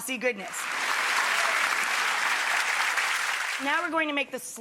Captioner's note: audience claps